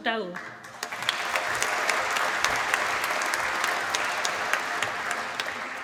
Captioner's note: applause